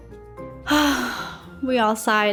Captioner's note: sigh